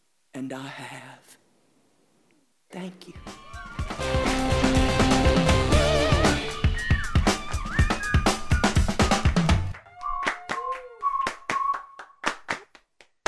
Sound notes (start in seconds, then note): 3.2 instrumental music; 3.3 audience clapping